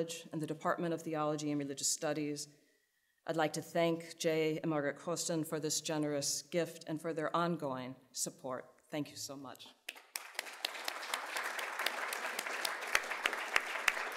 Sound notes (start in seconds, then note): 9.8 audience clapping